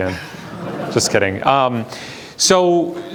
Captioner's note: class laughs